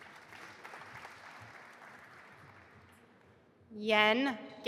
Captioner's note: audience applauding